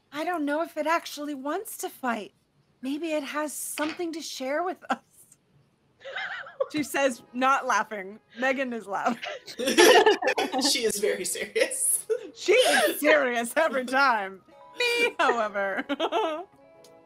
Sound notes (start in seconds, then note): 6.0 laughs; 9.2 laughter; 15.1 giggles